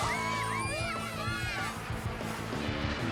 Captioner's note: cheers